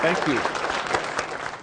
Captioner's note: applause